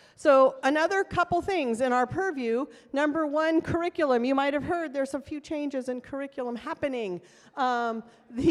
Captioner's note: none